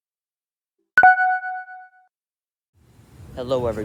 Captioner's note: the silence